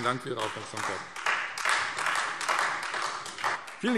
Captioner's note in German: Beifall Freie Demokraten